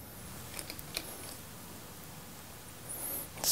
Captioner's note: soft whirring in the background